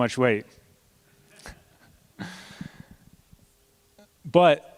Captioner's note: laughter